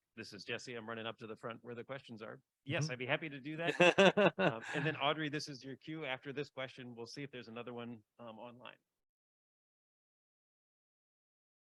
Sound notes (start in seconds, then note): 3.6 laughing